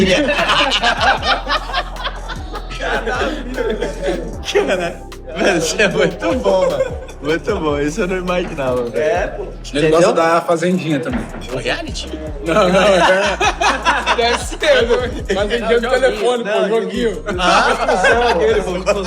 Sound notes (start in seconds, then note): 13.1 laughs